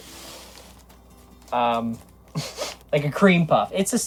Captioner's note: laughs